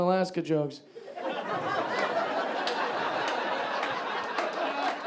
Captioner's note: audience laughing